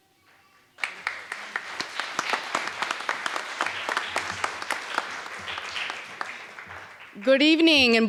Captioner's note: applause